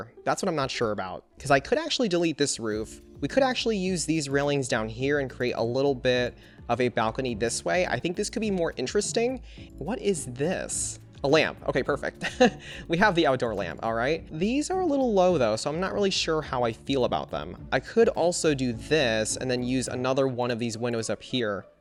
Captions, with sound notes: That's what I'm not sure about, because I could actually delete this roof. We could actually use these railings down here and create a little bit of a balcony this way, I think this could be more interesting. What is this? A lamp? Okay, perfect! (Laughs) We have the outdoor lamp. All right. These are a little low, though, so I'm not really sure how I feel about them. I could also do this and then use another one of these windows up here,